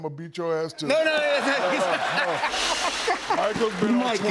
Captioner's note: laughter